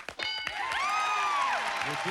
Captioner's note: cheers and applause